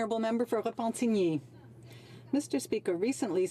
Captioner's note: speaking French